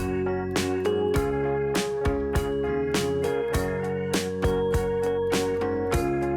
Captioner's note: Impact